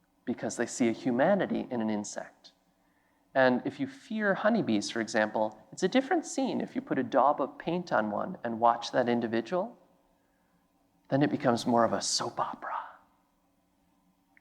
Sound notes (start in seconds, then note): none